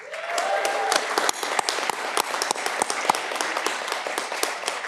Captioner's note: audience clapping